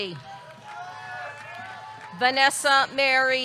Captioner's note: audience clapping; audience cheering